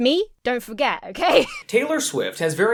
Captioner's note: laughs